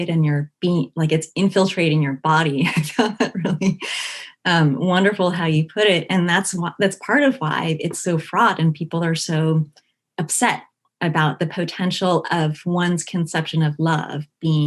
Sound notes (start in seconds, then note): 2.8 laughing